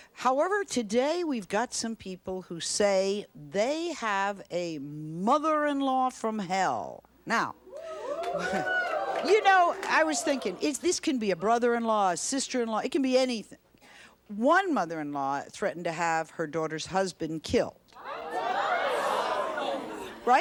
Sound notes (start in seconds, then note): 7.7 audience cheering; 18.0 audience jeering